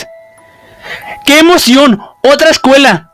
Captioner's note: sarcastically